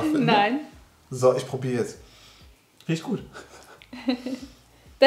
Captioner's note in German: lacht